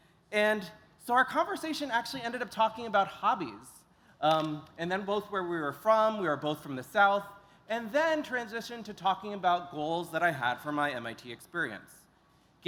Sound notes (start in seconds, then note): none